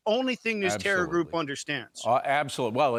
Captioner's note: speaking in native tongue